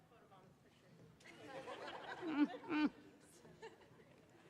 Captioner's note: laughter